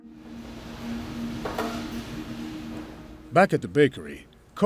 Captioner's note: bakery equipment humming